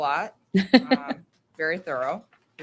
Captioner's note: laughing